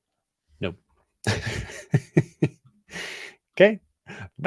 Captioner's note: laughs